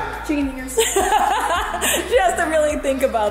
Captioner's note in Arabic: يضحك